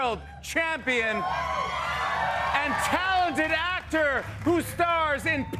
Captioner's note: cheering